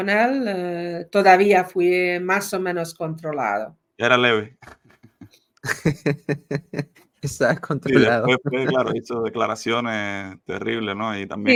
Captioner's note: laughs